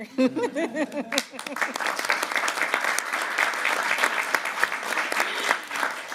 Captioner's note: applause